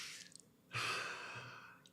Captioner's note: sighs